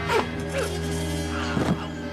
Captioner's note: blowing